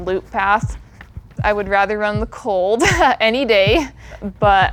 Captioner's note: laughs